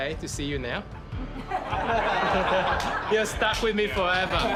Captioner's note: gentle laughter